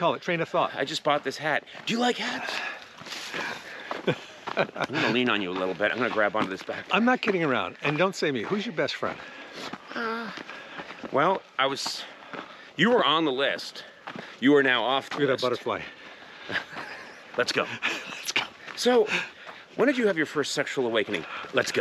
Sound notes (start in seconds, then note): 3.3 Kevin laughs